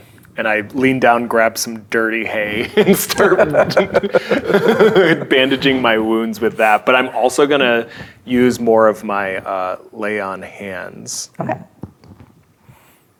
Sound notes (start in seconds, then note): 2.5 laughing